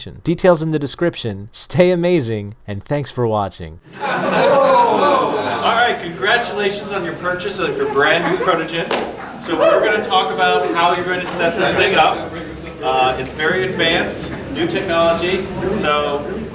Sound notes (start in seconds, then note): 3.8 audience laughing